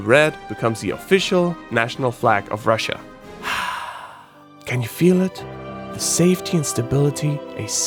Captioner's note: deep breath